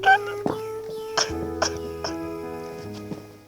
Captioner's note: sobs